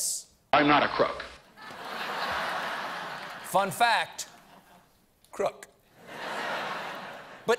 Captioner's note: laughter